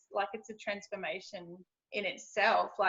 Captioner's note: none